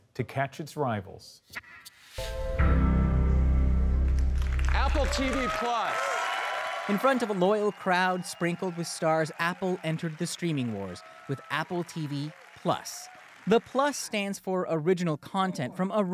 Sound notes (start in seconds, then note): 6.0 applause